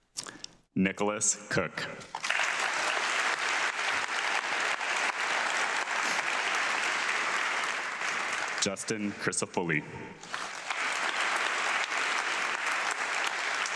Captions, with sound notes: Nicholas Cook. (audience clapping) Justin Crisafulli. (audience clapping)